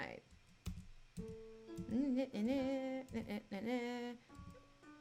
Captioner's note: keys tapping